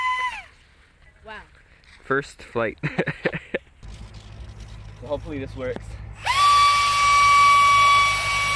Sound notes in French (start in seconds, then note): 2.8 rires